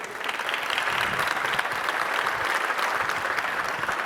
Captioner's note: audience applauds